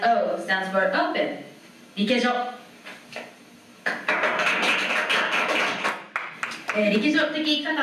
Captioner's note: applause